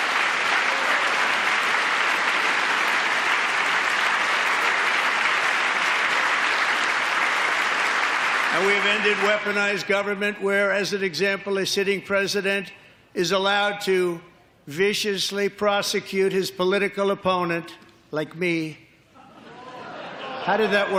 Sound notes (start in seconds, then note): 2.1 applause